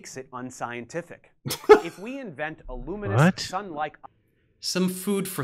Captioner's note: Flathead 1: *scoffs